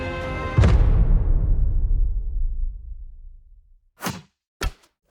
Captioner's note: dramatic bang; words clanking